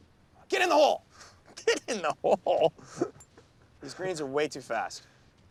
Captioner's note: chucking